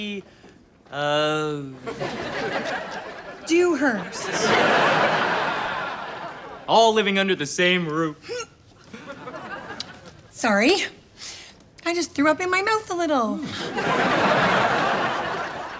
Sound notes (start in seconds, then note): 0.2 laughs; 4.4 laughs; 8.2 gags; 13.4 laughs